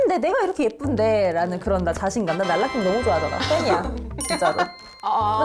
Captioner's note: falling in love sound effect